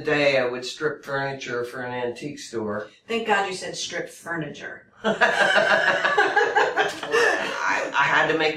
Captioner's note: laugh